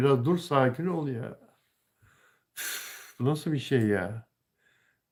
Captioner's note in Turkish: iç çeker